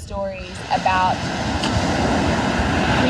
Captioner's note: waves crashing